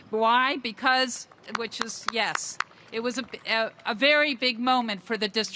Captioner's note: applause